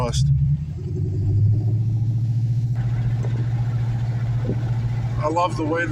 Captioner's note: engine exhaust